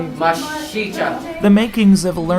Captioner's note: Student speaks Lakota